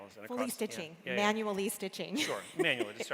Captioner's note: laughs